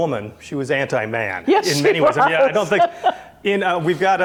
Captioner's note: laughs